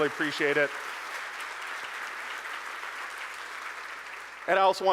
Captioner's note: audience applauding